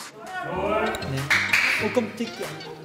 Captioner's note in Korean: 슬레이트 소리